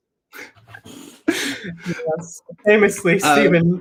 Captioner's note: both people laugh